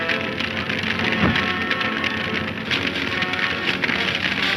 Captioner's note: fire roars